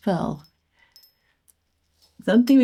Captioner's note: gentle tinkling